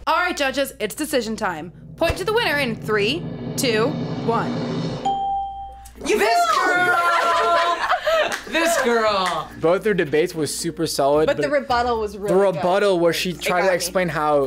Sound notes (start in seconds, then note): 5.0 bell rings